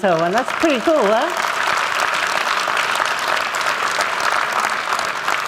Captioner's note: applause